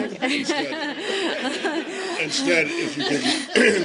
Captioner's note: laughter